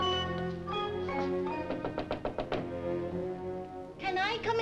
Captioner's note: knocking on door